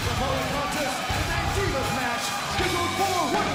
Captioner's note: bell ringing